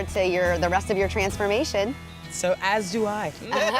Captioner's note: laughter